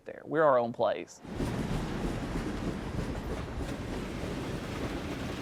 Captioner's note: train engine chugging